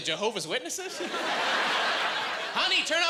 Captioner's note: laughing